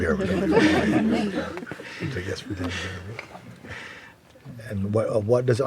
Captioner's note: laughter